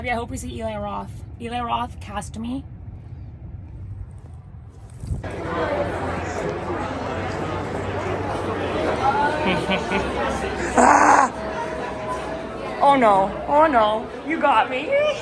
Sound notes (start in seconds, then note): 5.7 crowd murmuring